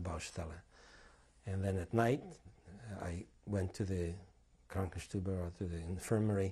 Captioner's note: non-english